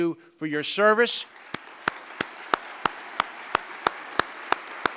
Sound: applause

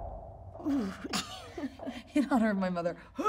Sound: suspensful music; Ayo shudders

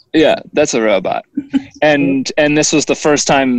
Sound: laughing

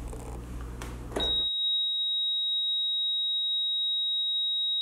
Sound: beep

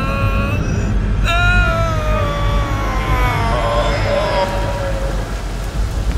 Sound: groans painfully; groan transforms to Growl

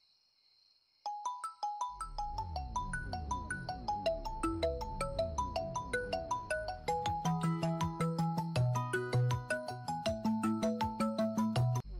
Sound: phone ringing

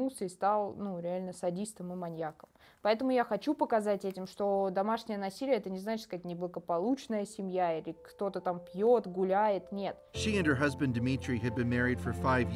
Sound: speaking russian

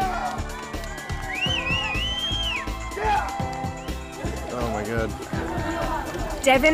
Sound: cheering

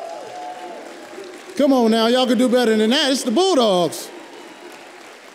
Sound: applause

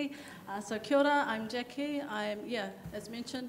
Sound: speaks in a foreign language

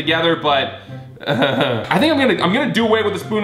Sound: laughs

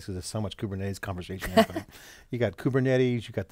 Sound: laughs

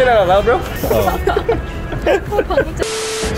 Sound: all laughing; television static

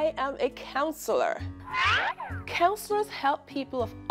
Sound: Acme siren whistling

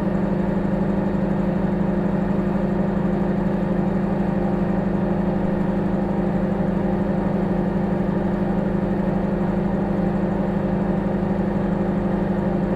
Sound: microwave humming

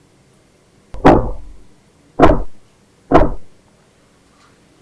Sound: knocking on the door

